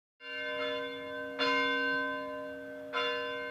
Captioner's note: bell ringing